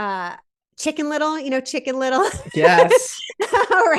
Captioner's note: laughs